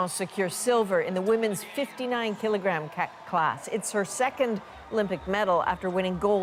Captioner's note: applause